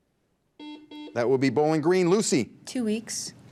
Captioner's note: buzzer beeps